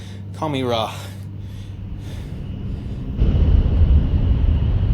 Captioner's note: airplane engine roaring